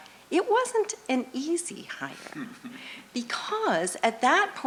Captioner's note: laughter